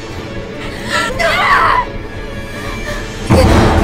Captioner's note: screaming